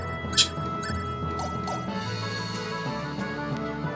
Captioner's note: scoffs